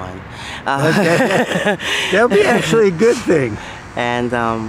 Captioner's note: laughs